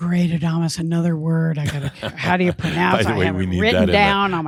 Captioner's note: Adamus chuckles